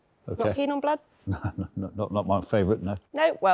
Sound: chuckling

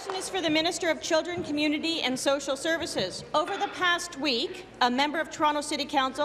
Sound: applause

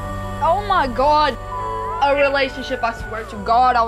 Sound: beep

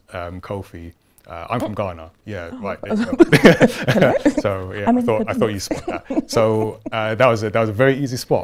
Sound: laughing

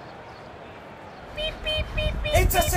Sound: beep beep beep beep!

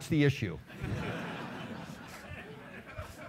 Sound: laughing

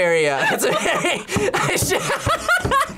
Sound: both laugh

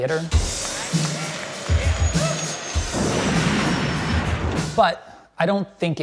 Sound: audience applauding

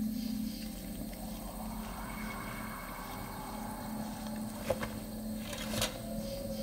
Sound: faint gust of wind

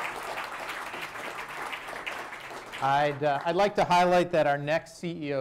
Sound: applause

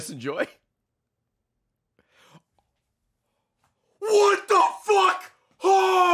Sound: gasps

